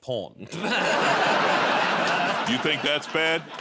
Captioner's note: laughter